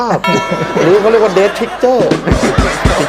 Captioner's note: laughter